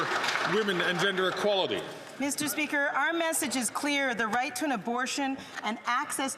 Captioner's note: some Applause